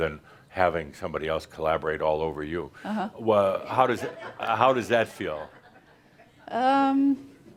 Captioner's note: some chuckles